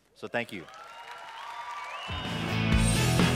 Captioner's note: applause